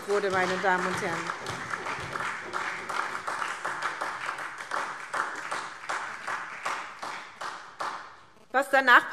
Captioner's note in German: Beifall SPD